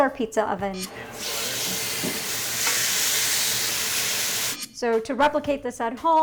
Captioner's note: chicken sizzles